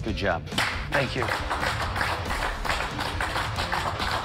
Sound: applause

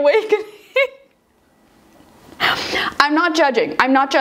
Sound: laughing

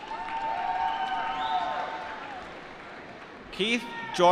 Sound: applause

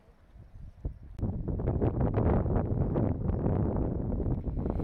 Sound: wind gusting

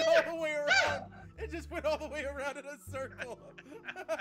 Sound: laugh

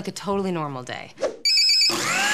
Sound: alarm clock rings; blender grinds

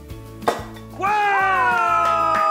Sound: pop; cheering

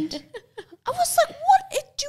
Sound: laughs softly

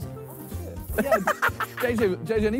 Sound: laughing

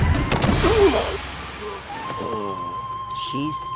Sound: grunting; groaning

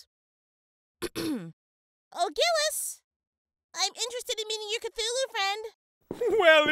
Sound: ahem

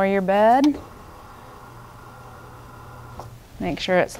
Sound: bed buzzing

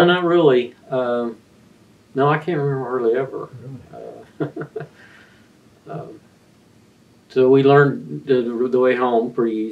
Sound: laughs

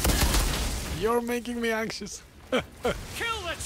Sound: laughs

